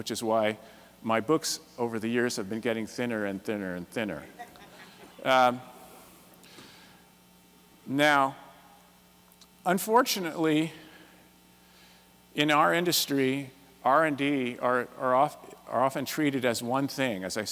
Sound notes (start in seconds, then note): 4.3 laughter